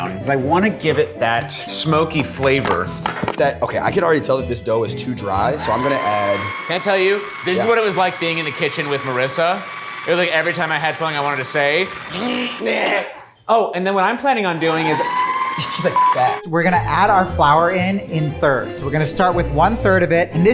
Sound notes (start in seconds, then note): 12.4 Ryan imitates the blender; 14.7 blender motor whirs